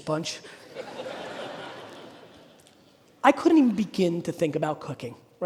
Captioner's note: audience laughing